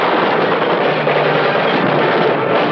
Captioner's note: explosion; gunfire